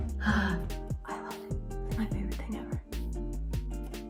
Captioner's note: gasps